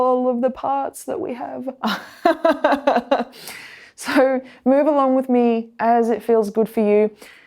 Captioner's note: laughs